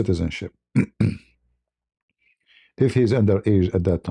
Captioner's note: berdehem